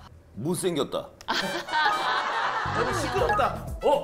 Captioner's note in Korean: 웃음소리